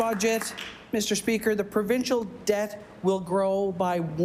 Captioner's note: applause